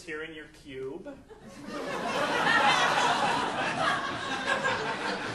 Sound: audience laughing

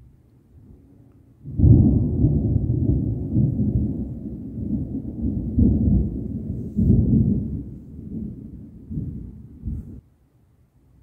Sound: deep quiet thunder; louder very deep thunder

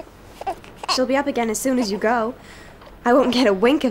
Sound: Brady coos

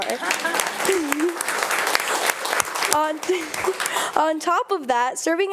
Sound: audience applauding

